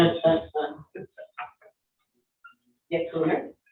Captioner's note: all chuckling